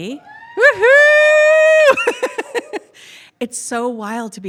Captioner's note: laughs